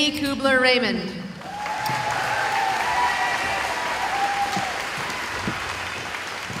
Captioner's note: cheering